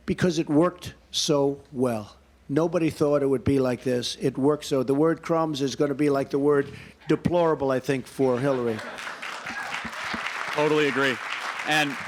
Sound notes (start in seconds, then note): 8.3 applause